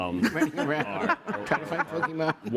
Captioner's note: laughter